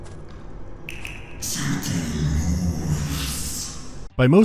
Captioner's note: fish-person speaks in creepy, clicking and hissing tongue